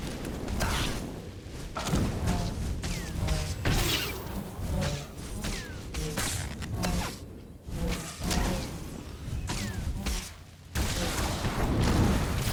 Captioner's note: gunshots